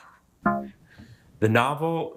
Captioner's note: womp chimes